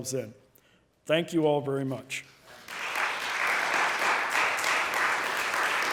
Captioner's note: audience clapping